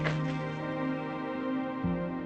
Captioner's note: participants clapping; gentle music